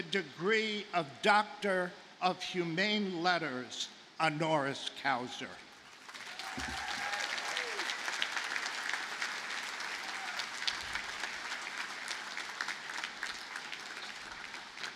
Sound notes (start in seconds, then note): 5.9 audience cheers and applauds